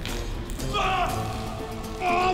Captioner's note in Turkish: Bağırma sesi